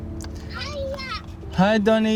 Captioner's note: child On Phone